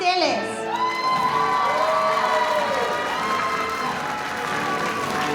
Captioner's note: applause